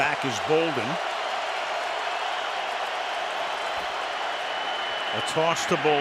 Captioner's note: cheering